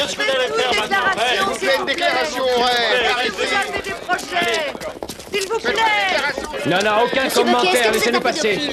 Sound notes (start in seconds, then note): 3.2 clamoring continues